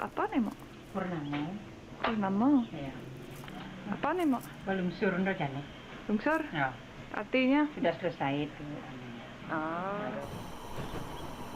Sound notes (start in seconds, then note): 1.4 woman No.2 speaking native language